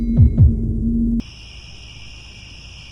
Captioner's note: crickets